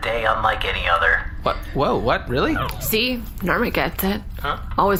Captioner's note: despairing